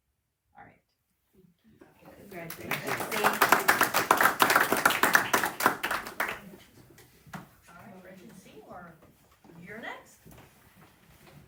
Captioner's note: applause